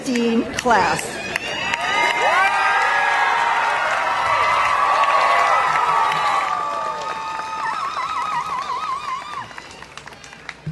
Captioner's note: applause and cheering